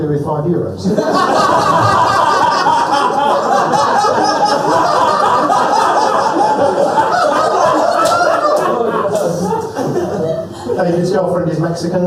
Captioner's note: laughter